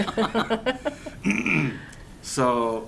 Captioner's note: laughter